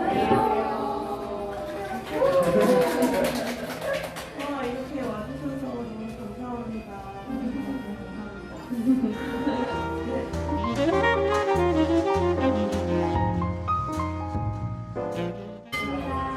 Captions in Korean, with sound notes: Hello. (Applaud) Thank you all for coming tonight. I prepared plenty of wine, and added grapes, cheese and olive on the side.